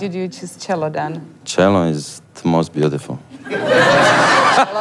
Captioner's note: laugh